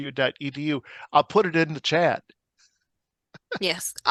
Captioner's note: laughs